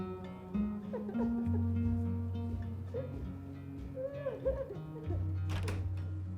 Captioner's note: Angela cries in the next room